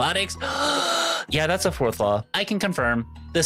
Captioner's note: gasp